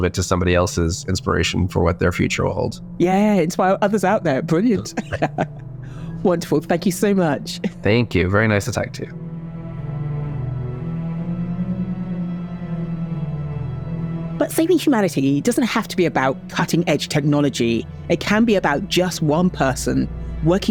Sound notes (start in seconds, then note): 4.7 laughs; 11.1 tense music